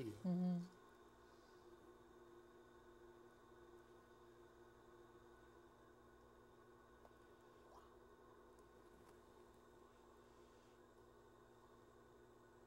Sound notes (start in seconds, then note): 0.0 pottery wheel whirs